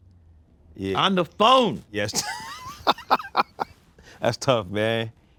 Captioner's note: laughs